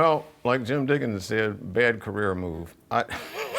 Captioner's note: laughs